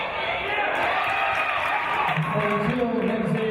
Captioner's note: cheers